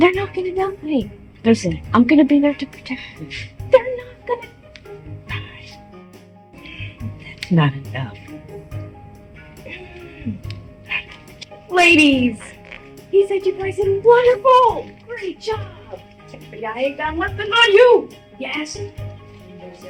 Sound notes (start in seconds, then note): 9.6 Blue grunting